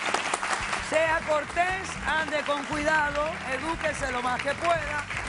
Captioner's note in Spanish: Aplausos